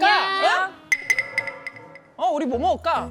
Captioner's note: lonely sound effect